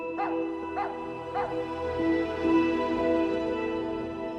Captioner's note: barking